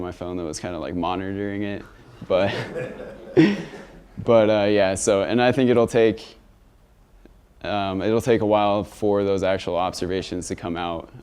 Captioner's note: laughter